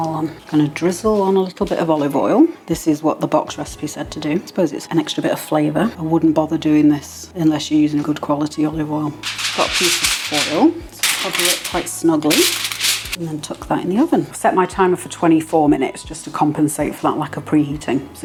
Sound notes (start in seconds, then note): 9.2 metallic crinkling